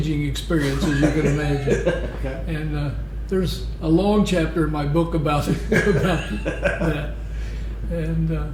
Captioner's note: laughter